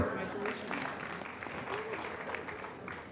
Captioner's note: applause